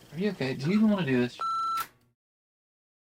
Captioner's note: beep